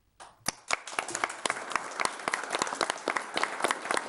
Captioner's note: audience applauds